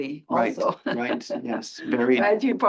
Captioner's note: laugh